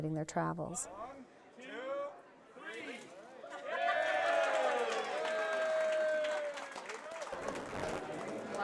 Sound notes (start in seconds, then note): 0.8 crowd; 6.5 applause